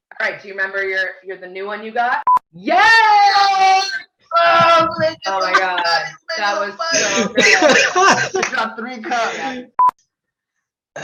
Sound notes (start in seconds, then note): 2.8 people cheering